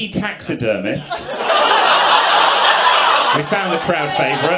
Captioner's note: audience laughs